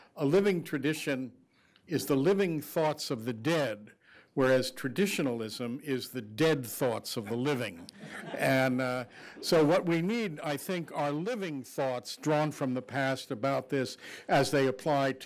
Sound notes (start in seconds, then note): 7.2 group laughing